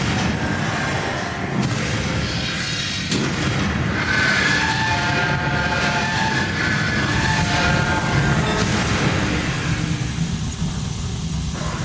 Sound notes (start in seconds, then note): 2.1 blast Door Opens